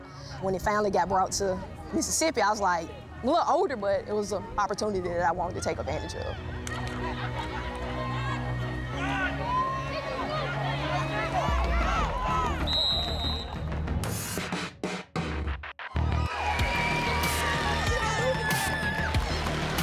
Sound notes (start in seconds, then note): 12.6 whistle blowing; 15.8 cheering